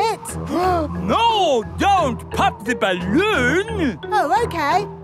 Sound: gasps

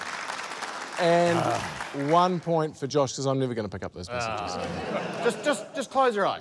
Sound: applause; groans

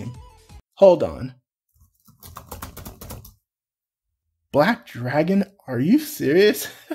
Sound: typing sounds

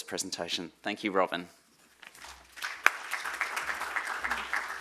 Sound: applause

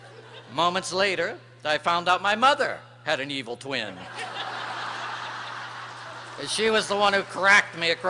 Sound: laughter

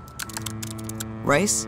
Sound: text typing

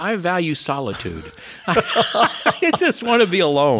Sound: laughs

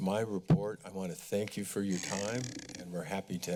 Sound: mic sounds

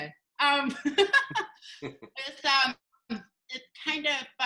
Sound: pair laughs

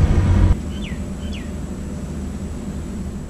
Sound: bird chirping

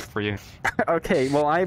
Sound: laughs

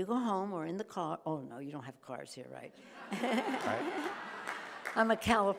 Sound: chuckles

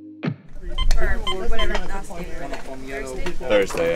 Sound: metal detector beeping

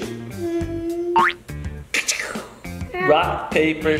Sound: boing

